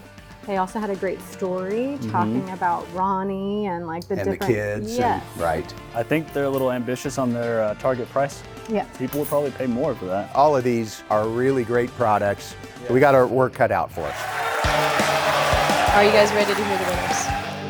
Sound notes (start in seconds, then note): 14.0 crowd cheering and applauding